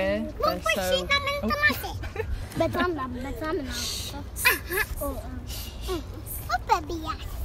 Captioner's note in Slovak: deti rozprávajú v twi